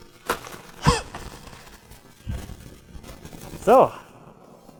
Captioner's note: he coughs